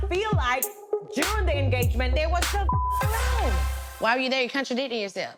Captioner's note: beep